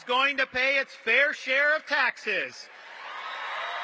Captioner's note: cheers and applause